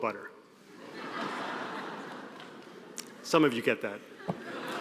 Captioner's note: audience laughing